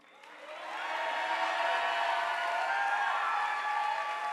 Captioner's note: audience applauding